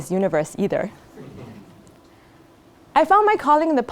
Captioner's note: laugh